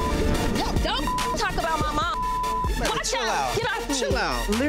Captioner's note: beep